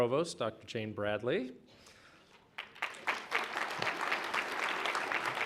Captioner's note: applause